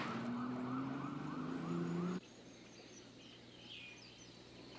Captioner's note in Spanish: Pássaros cantando